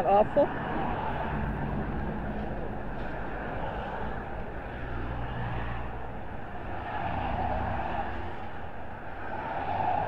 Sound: engine sound

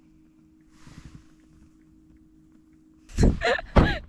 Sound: scratching

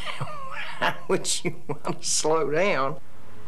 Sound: laughing

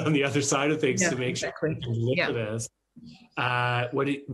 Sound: chuckles

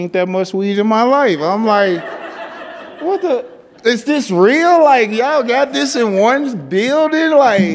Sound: laughter

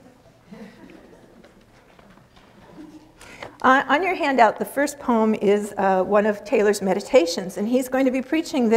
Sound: audience laughter

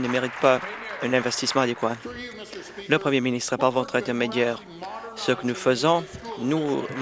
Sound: some Applause

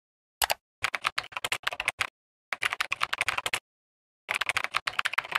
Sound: fast keyboard tapping

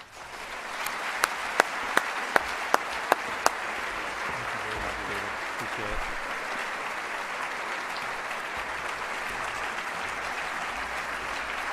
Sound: applause

